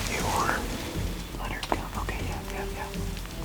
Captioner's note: whispering